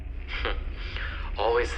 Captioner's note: Arthur laughs